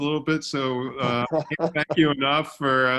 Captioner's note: laughing